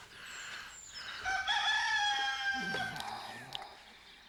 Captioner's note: cock crows